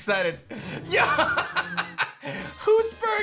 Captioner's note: laughs